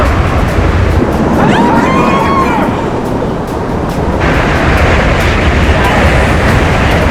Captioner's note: screaming